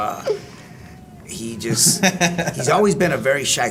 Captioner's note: laugh